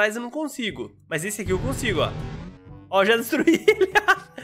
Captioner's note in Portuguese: risos